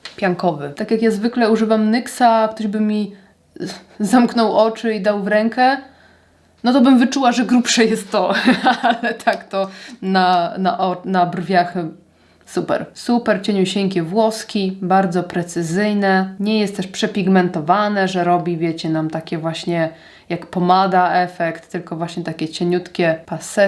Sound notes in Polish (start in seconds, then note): 8.3 śmiech